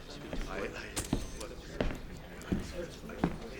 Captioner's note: mutters a response